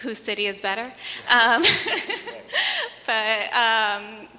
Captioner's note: laughs